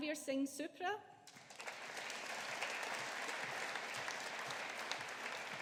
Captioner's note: audience applauding